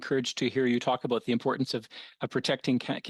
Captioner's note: speaking French